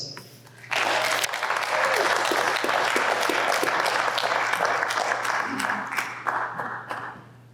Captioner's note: applause